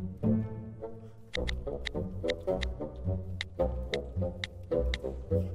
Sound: buttons clicking

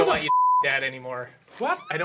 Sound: beeping

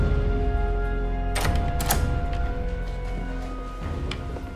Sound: door opens

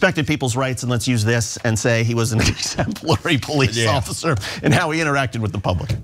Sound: laugh

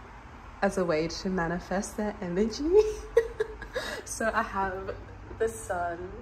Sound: giggles

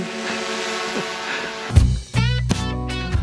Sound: drone buzzing loudly; easy-going rhythmic music returns

